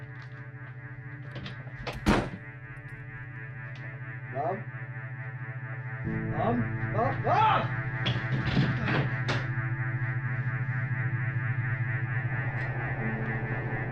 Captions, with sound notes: (door bangs) Mom? Mom? Mom? Mom! (somber music)